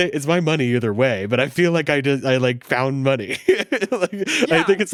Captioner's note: laughs